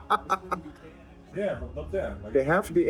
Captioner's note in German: lacht